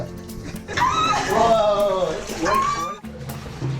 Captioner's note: screams